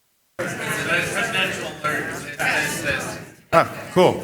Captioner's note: multiple audience members speaking